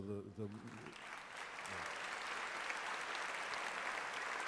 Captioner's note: applause